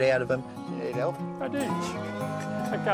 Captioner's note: chuckles